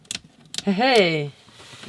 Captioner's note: switches being switched